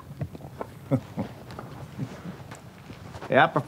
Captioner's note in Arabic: ضحكة مكتومة